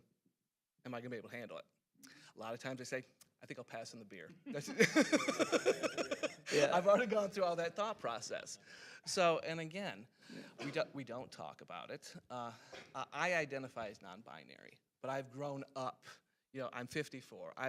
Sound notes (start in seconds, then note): 4.4 laughing; 4.5 other panelists laughing